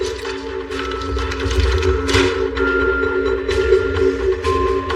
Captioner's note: banging